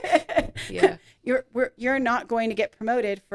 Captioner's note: laughing